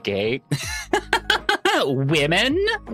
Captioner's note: laughing